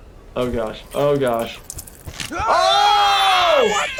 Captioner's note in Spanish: gritos